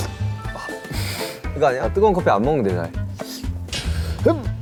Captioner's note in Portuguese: Sip